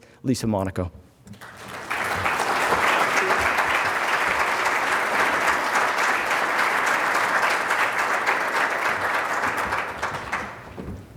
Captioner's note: applause